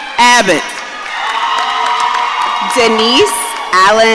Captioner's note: audience cheering